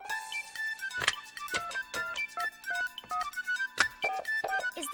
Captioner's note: buttons beeping